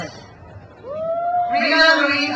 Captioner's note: crowd cheers